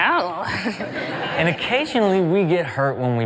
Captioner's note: laughing